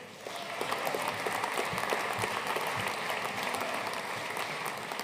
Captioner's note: audience cheering and applauding